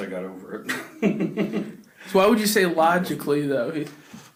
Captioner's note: laughs